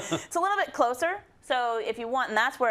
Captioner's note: laugh